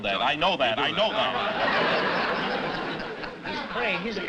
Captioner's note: laughter